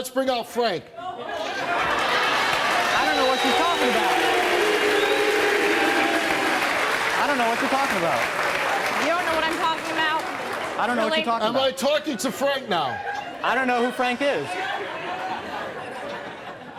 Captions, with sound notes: - Let's bring out Frank. (audience clapping) (audience cheering) - I don't know what she's talking about. (audience boo's) I dunno what you talking about. - You don't know what I'm talking about, really? - Am I talking to Frank now? - I don't know who Frank is. (laughs)